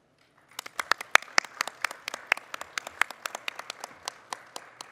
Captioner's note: audience applauding